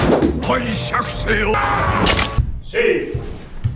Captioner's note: speaking Japanese